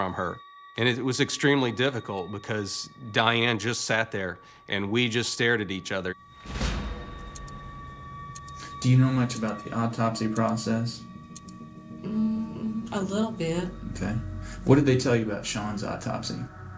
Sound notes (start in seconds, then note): 6.2 clock ticking; 6.2 tense music